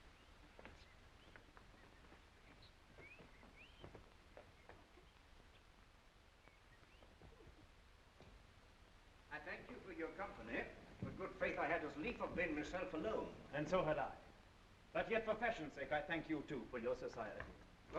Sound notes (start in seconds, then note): none